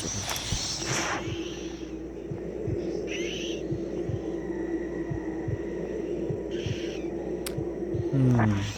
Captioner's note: cold-blooded noises